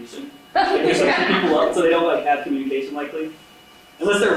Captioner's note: laughing